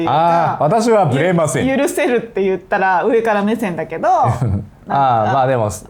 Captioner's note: laughs